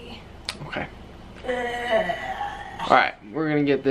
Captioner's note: groans